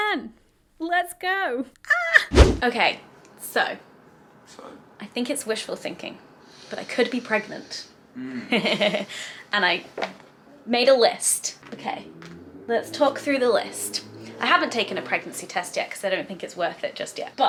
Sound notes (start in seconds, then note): 2.3 whooshing sound; 8.2 laughs